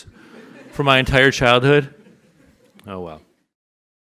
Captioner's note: audience laughs